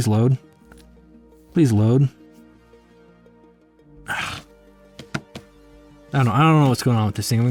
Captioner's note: groans